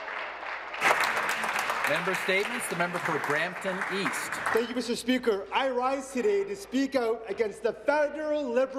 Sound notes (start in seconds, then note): 0.0 applause